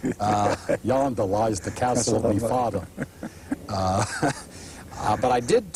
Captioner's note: laughter; imitating Tony Curtis; laughter